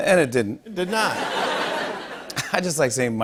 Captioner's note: laughter